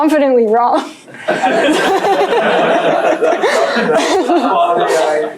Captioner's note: laughter